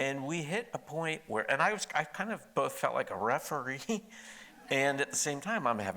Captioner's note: chuckles